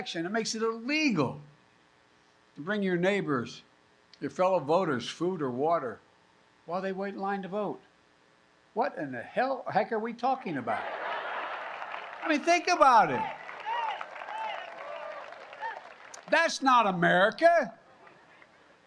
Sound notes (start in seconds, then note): 10.6 laughter and applause; 14.6 applause